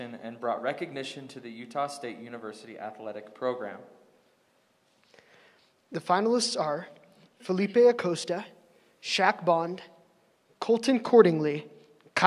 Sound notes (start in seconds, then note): none